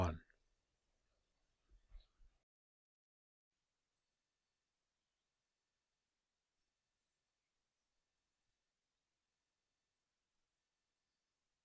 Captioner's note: silence